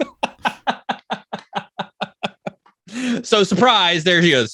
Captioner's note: laughs